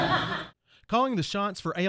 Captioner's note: laughing; voiceover